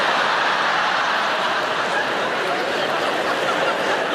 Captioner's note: audience laughing